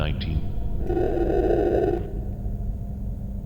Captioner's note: growling